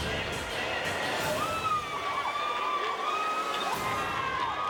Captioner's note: people cheering